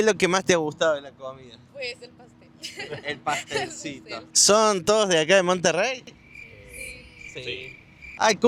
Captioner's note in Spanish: risas